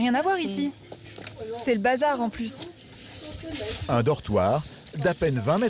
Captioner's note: roommates speaking foreign language